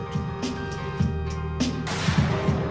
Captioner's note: explosion